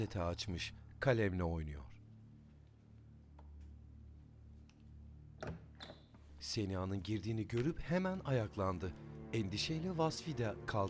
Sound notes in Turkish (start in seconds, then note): 5.4 Kapı açılma sesi